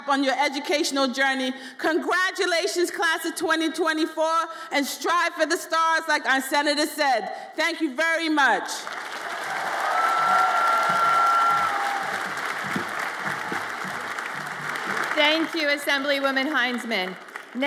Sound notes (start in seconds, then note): 8.8 audience applauds and cheers